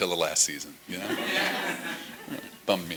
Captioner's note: laughter